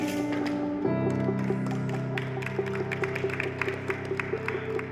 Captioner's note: clapping